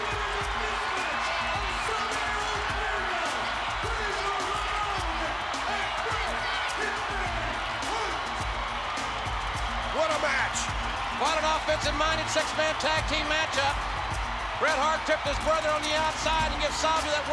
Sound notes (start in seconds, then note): 8.0 spectators cheering